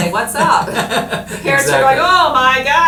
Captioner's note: laughing